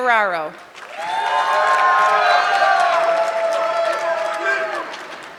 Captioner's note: audience clapping